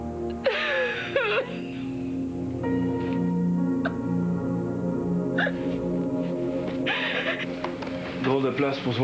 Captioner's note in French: Sanglots